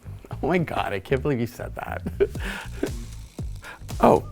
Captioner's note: laughs